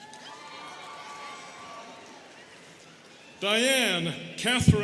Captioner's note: students cheering